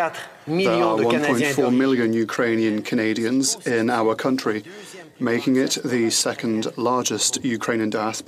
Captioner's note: speaking French